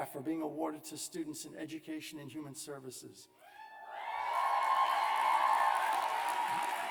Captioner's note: cheers and applause